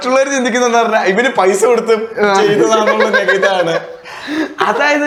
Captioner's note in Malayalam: പൊട്ടിച്ചിരി